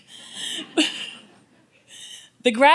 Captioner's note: audience laughs